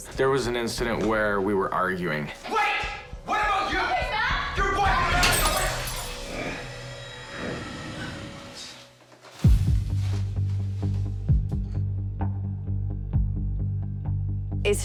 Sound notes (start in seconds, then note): 4.1 arguing; 5.1 object smashes